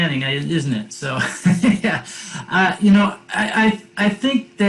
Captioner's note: laughs